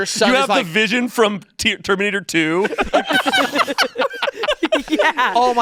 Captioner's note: everyone laughing